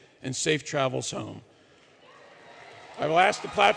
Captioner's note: applause